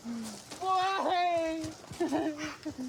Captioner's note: sobs